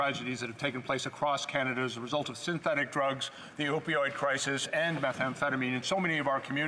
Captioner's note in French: voix de l'interprète